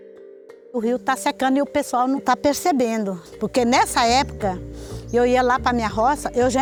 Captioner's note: energetic music; speaker speaking in foreign language